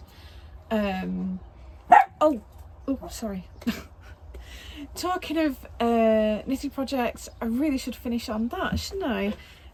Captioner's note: dog barks